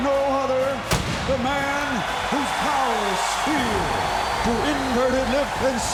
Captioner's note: pyrotechnics explode